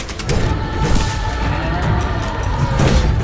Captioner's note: low wailing roar